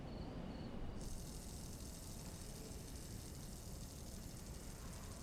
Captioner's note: fidget spinner whirring